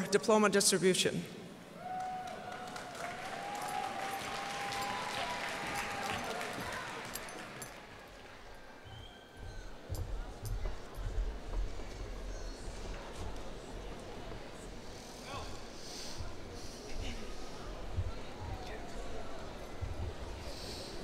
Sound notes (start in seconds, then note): 1.7 cheers and applause; 8.2 indistinct chattering